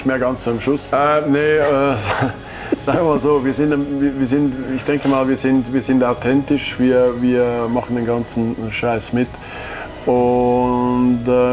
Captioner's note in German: lachen